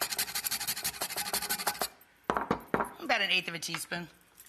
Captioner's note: grater noise